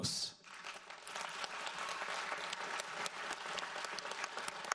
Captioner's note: audience applauds